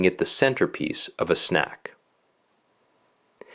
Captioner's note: pause